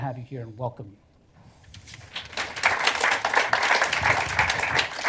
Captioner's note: applause